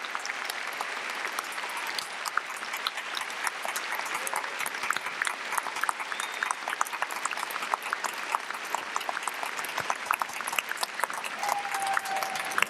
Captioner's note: applause